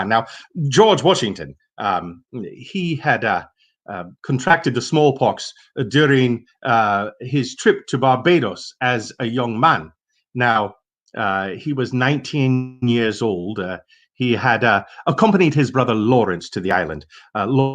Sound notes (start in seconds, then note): none